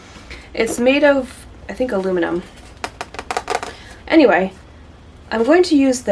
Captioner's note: fingernails tapping on metal